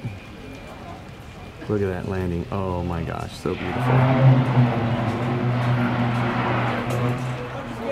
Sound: dragon roar

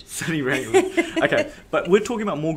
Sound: chuckle

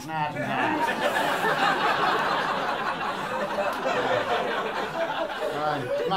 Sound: laughter

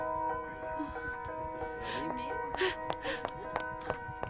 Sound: sobbing

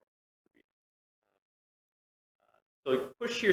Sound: audio cuts out

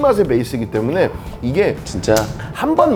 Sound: slurp

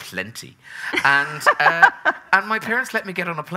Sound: laughing

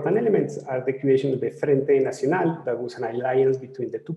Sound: speaking in foreign language

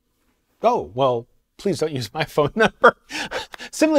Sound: laughs

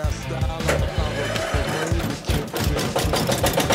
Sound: roaring; rattling

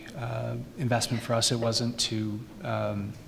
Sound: laughing

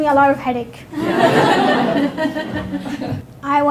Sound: laughter

